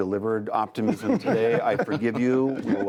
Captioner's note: laughter